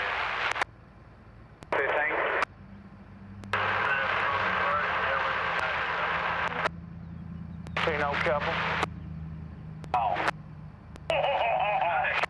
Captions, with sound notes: - This is a secret to, Garlin Man, too. - Okay, thanks. (static) - See an old couple?